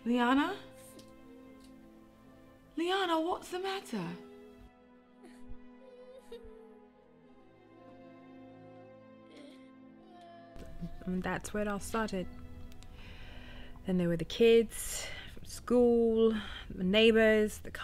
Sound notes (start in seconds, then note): 6.2 Leanna sobs; 6.2 melancholic string music